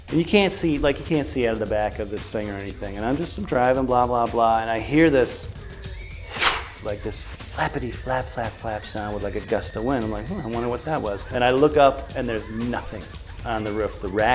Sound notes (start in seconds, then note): 6.2 whoosh